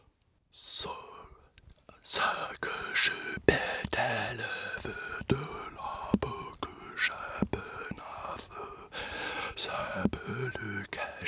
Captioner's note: whispering